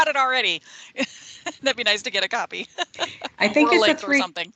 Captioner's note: laughing